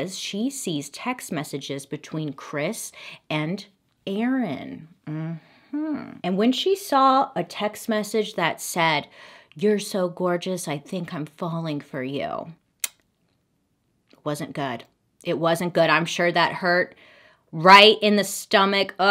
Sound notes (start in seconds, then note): 12.8 tongue clicks